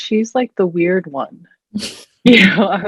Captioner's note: both chuckling